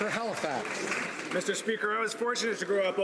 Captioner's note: some Applause